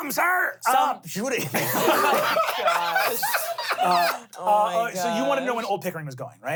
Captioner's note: everyone laughs